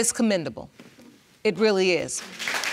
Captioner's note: audience applauds